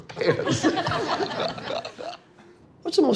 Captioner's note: laughing